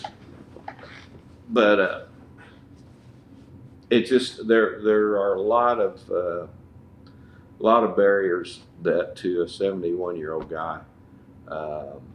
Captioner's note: laughter